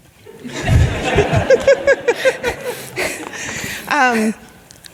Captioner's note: audience laughing